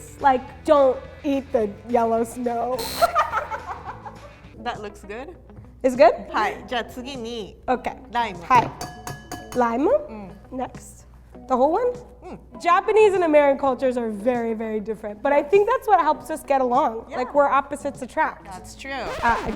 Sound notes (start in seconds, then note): 2.8 electronic buzz; 3.0 laughs